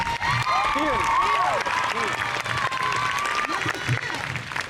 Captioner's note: crowd cheers